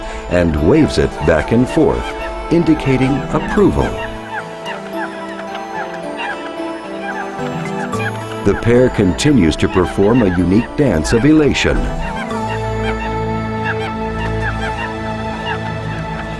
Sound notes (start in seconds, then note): 3.7 enchanting music; 3.7 squawking birds; 12.2 squawking birds